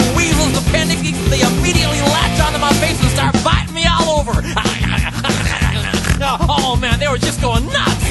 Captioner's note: weasel noises